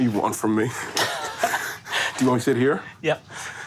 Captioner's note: laughs